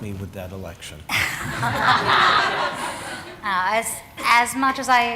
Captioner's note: laughter